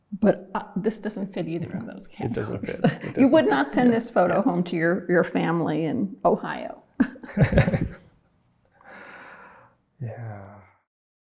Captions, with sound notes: But this doesn't fit either from those cases. - It doesn't fit, it doesn't. - You would not send this photo home to your family in Ohio. (both laughing) - Yeah.